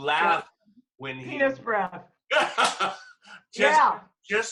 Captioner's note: laughter